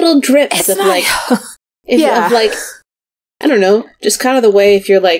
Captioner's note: sighs